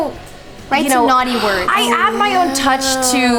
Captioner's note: gasping